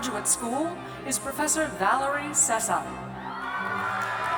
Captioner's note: cheers